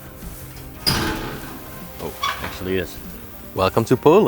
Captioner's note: gate hinges creak